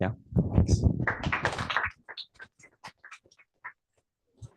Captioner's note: applause